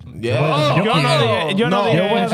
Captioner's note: speaking In Foreign Language